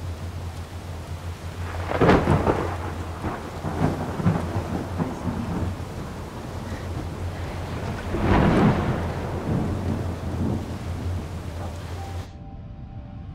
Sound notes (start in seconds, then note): 1.7 thunder cracking